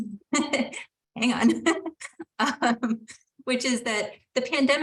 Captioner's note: laughing